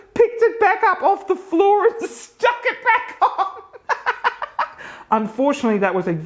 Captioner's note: laughs